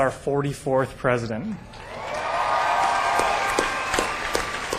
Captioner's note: applause